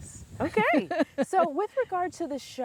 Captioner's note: laughing loudly